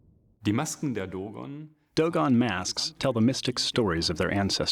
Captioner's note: non-english speech